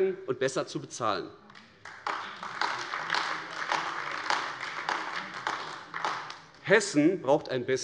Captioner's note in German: Beifall AfD